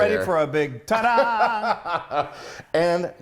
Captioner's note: laughs